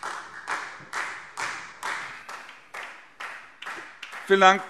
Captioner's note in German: Beifall SPD